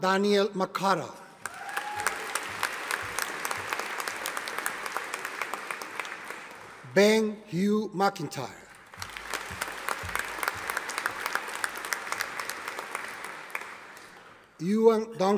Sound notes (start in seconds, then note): 1.4 audience applauding; 8.7 audience applauding